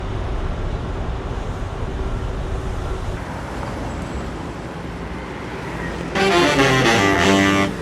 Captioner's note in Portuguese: Ruídos urbanos